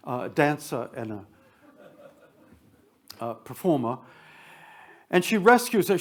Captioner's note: attendees chuckle